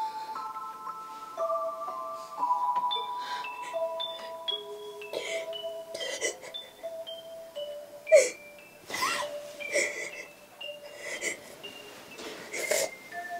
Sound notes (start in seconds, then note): 4.8 cries